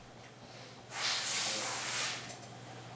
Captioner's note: hissing, clanking